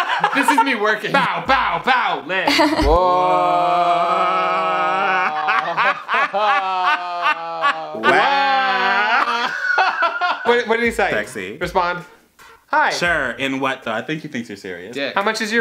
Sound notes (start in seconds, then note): 0.0 laughs; 8.1 laughing